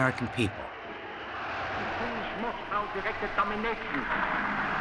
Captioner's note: speaking German